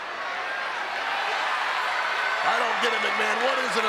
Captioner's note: audience cheers